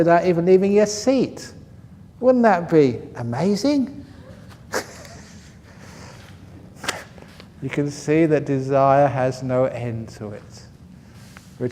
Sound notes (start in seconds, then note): 4.1 laughs